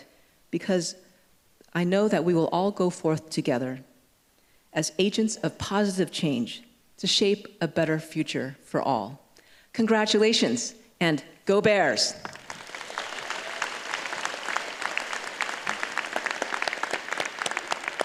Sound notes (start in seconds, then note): 12.2 applause